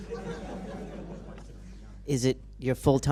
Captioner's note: laughter